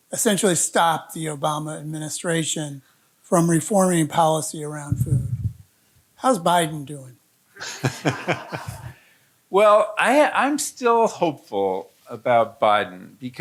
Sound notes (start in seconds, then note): 7.6 audience laughing